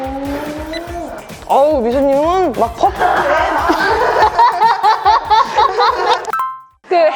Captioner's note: laughter